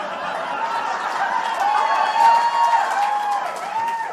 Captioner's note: audience applause